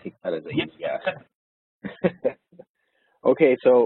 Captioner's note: laughing